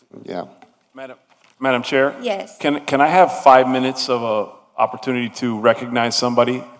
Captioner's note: speaking foreign language